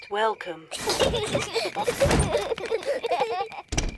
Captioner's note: children laugh